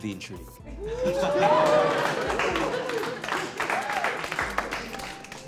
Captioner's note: cheers and applause